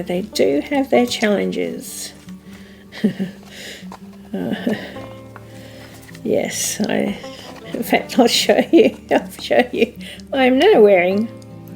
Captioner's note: laughs